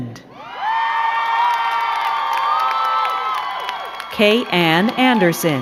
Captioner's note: crowd cheering and clapping